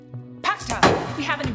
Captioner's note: Cleopatra speaks in foreign language